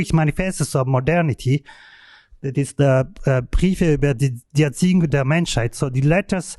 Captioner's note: non-english speech